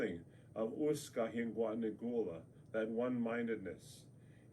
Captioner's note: speaks native language